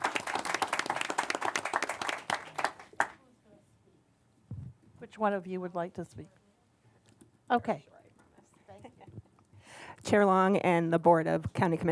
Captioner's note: applause